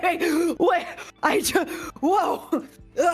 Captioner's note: more scared laughter; gasp